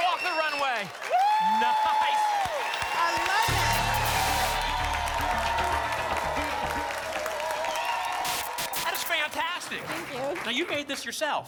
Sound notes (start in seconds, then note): 3.3 static; 6.0 applause and cheering; 8.1 static